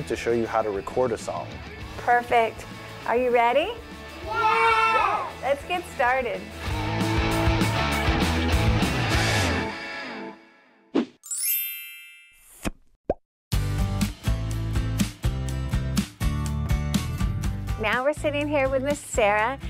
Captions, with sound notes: to show you how to record a song. - Perfect, are you ready? - Yeah! - Let's get started. (rock music) (chiming) (upbeat music) Now we're sitting here with Miss Sarah,